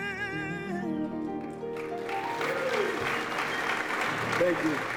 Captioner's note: applause